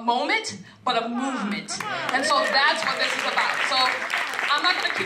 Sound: applause

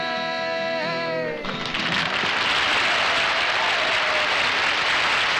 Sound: applause

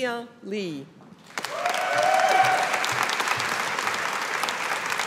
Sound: audience applauding

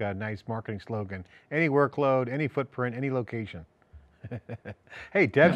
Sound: laughs

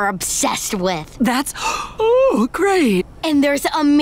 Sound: yawning

